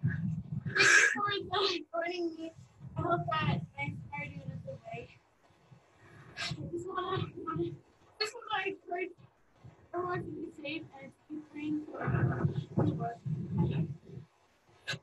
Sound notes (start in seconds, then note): 0.6 sighs; 5.7 sighs